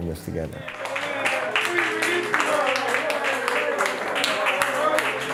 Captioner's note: cheers and applause